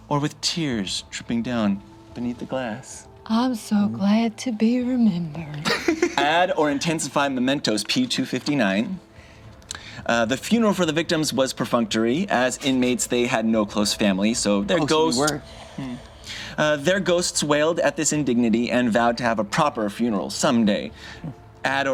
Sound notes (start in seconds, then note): 5.6 laughs